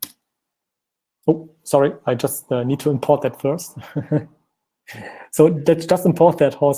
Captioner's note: laughing